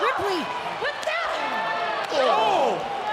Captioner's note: wrestlers grunting